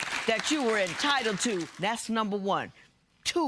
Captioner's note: applause